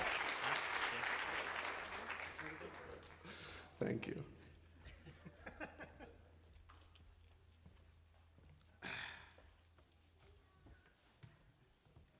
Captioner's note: applause